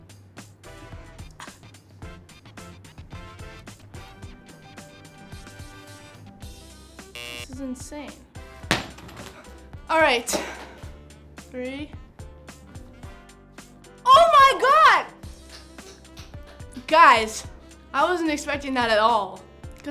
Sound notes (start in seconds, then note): 0.3 playful music; 7.1 buzzer sounds; 8.6 coin thumps